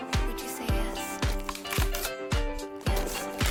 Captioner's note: bone crunch